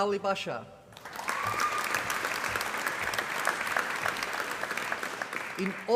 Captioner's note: applause